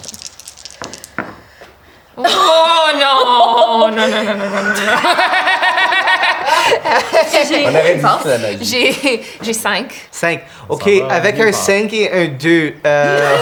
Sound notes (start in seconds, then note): 0.0 dice rolling; 4.9 they laugh